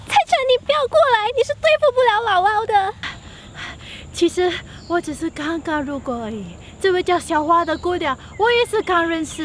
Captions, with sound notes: Cai Chen, don't come any closer! You're no match for LaoLao ! *Puff* Actually hor... I just happen to be around and I barely know this Xiao H ua lady